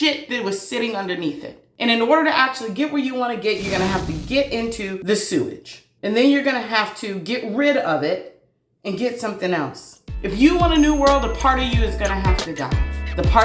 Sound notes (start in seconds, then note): 3.5 zoom sound; 10.1 uplifting music